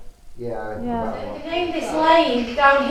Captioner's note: white noise